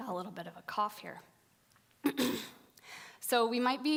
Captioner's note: coughing